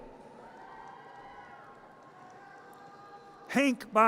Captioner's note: audience cheers